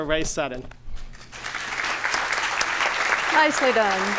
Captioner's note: applause